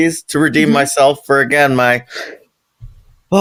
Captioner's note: sigh